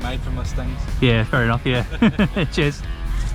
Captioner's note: laugh